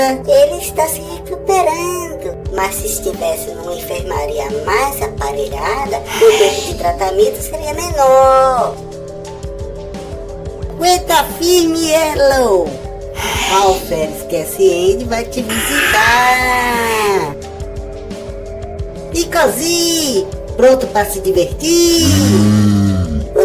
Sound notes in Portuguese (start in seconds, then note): 15.4 ahhhhhhh